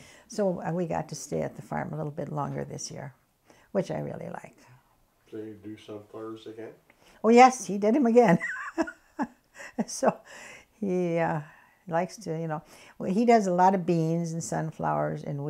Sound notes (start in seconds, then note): 8.2 laughs